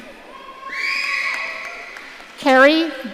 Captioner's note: audience cheering